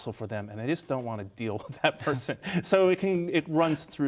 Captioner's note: laughs